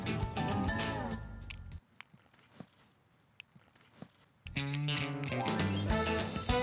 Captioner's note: clicking